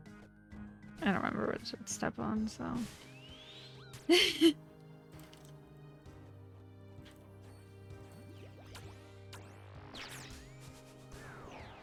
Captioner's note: nervous laughter